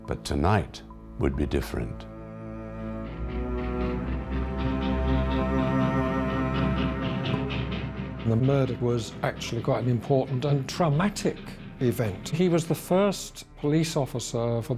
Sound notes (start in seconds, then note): 3.5 mournful music; 4.0 train chugging